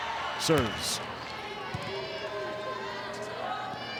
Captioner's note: ball thumping